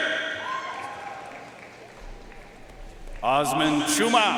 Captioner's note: audience cheering and applauding